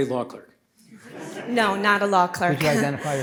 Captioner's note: audience laughs